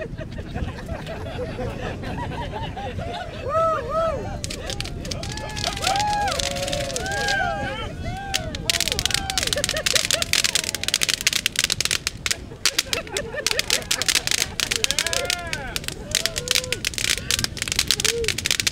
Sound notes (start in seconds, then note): 0.0 crowd laughter; 5.8 fireworks crackling